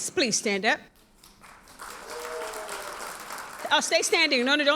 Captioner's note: audience cheers and applauds